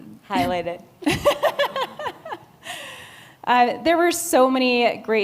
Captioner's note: laughs